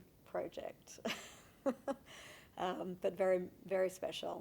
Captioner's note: laughing